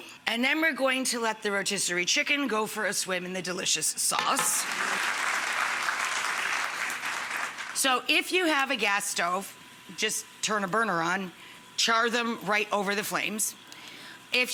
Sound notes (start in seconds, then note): 4.4 audience claps